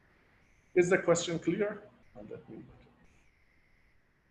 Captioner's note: murmurs